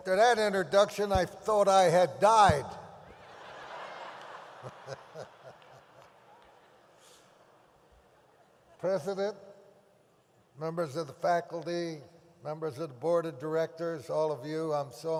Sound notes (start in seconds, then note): 3.1 audience laughs; 4.6 Tommy laughs